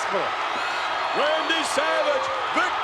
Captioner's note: crowd cheers